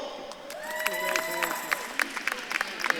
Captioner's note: audience claps and cheers